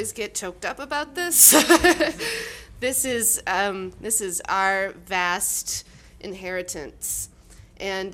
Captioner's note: crying, laughing